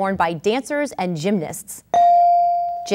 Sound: ding

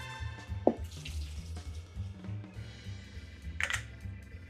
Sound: water drizzling; ice clinking

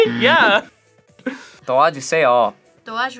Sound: laughs; buzzer rings

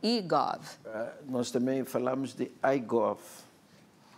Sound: speaking portuguese

